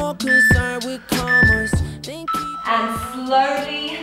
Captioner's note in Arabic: صوت المؤقت